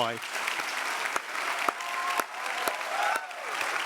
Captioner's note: all applauding